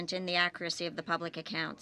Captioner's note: speaking French